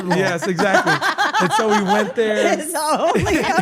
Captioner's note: laugh